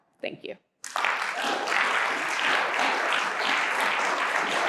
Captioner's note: crowd clapping